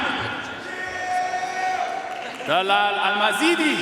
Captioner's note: audience cheering and applauding